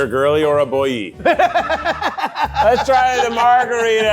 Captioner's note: laughs